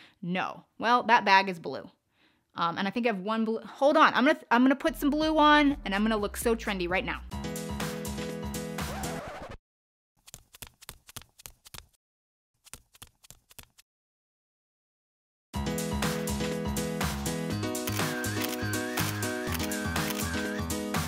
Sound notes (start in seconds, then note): 7.6 upbeat funk music; 8.8 record scratching; 15.6 upbeat funk music; 17.8 camera shuttering